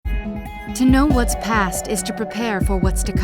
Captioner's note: voiceover